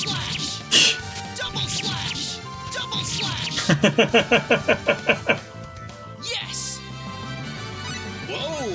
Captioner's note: laughs